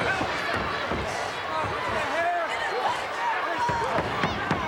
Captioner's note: crowd murmuring